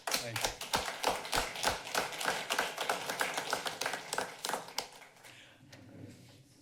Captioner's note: applause